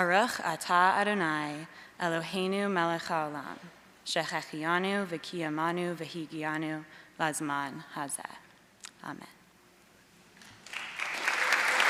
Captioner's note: praying in Hebrew